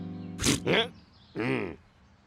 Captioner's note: gasps; growling; grunts